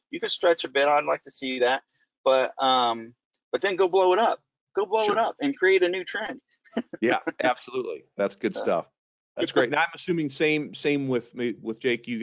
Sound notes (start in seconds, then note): 6.8 laughing